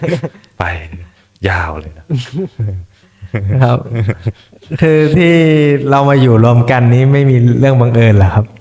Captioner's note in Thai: เสียงหัวเราะ